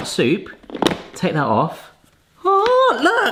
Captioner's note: plastic snapping